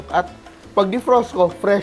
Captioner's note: sizzle